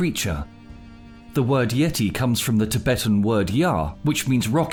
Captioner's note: foreign language